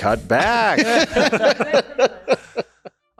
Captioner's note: laughing